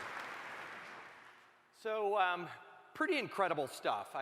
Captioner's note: applause